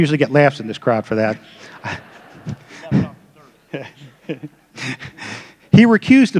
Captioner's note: laughter